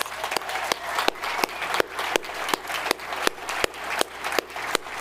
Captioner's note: audience applauding